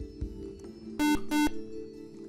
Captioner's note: buzzer